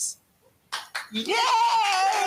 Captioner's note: clapping